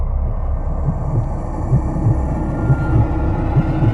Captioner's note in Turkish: ürkütücü sesler